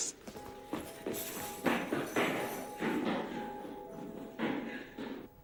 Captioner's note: running footsteps fade